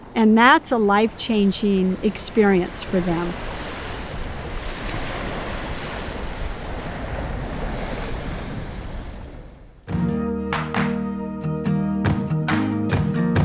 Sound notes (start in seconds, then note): 3.6 ocean waving; 9.9 inspirational music